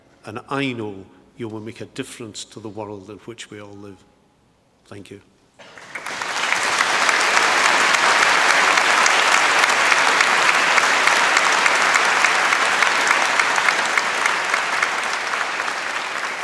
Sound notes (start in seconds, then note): 6.0 applause